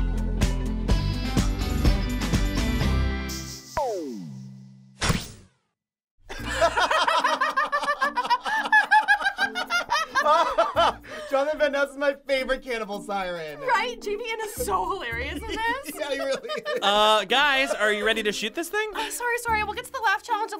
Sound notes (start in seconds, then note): 6.3 both laugh